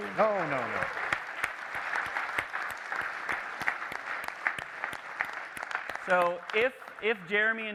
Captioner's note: applause